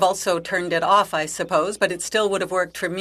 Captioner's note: speaking French